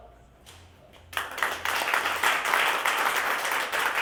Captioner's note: applause